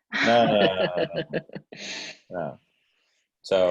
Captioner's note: laughing